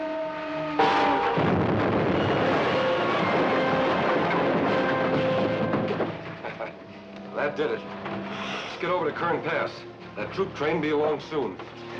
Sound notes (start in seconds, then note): 0.8 explosion booms; 3.4 dramatic music; 6.3 laughing